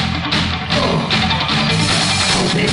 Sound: moaning

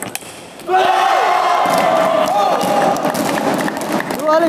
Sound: applause

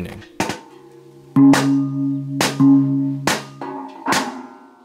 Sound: gong sounds

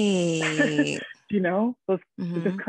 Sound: woman laughing

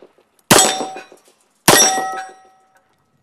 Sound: bang

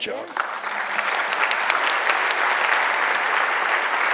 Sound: audience applauds

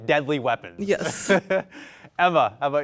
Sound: laughs

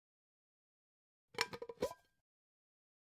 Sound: sound of pot

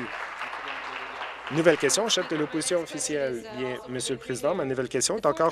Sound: applause

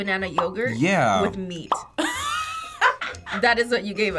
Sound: bubble popping; cackling

